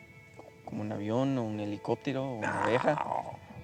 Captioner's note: speaking spanish